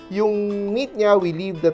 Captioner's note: none